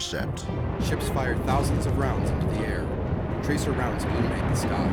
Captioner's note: gunfire